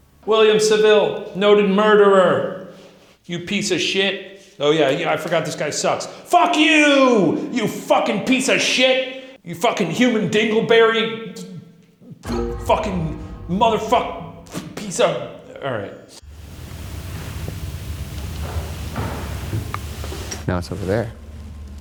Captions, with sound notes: William Saville, noted murderer. You piece of shit. Oh yeah, I forgot this guy sucks. Fuck you, you fucking piece of shit! You fucking human dingleberry! (eerie dramatic music) Fucking motherfuck... Piece of... All right. (knock thudding) - Now it's over there.